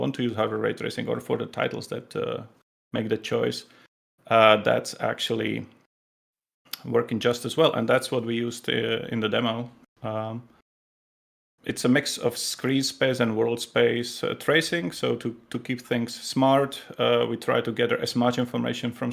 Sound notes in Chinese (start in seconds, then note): none